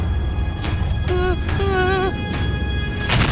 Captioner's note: moaning